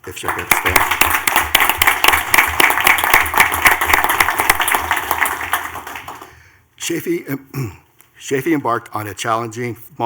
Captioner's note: clapping